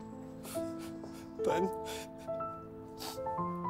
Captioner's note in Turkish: Ağlıyor